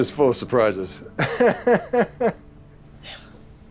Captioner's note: laughs